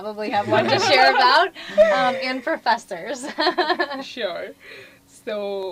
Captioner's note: laugh